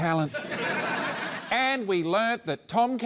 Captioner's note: laughter